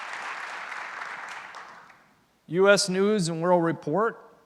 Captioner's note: applause